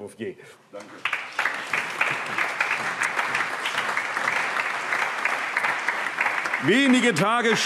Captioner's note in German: Allgemeiner Beifall